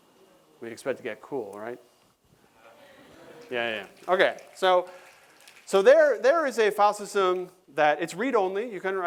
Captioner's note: applause